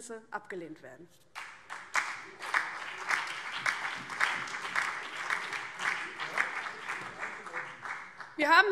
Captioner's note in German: Beifall BÜNDNIS 90/DIE GRÜNEN, vereinzelt CDU, SPD und DIE LINKE